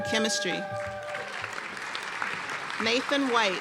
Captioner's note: applause and cheers